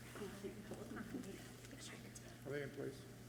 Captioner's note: speaking away from mic